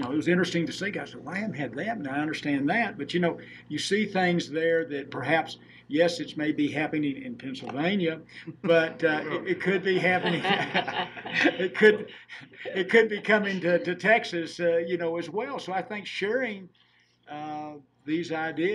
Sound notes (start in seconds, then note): 8.4 laughing